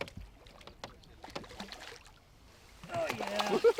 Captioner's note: fish splashing